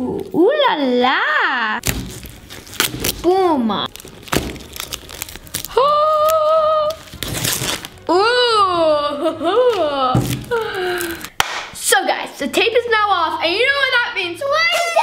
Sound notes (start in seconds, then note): 5.7 exclaims